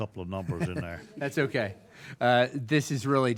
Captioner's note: laughing